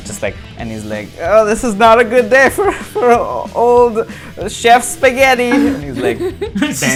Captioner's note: laughter